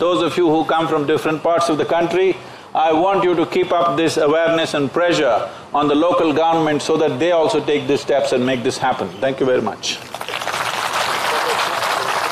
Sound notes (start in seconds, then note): 10.0 applause